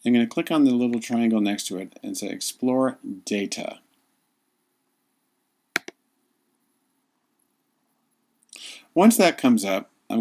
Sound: clicks

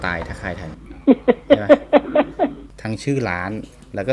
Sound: laughing

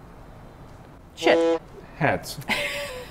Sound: boat horn honks; laughs

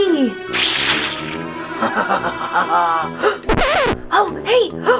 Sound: duck laughing

